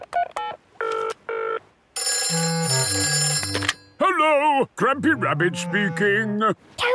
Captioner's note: phone ringing